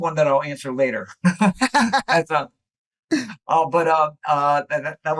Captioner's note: laughter